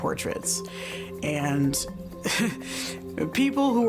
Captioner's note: laughs